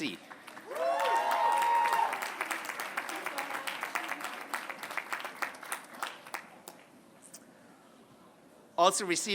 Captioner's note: applause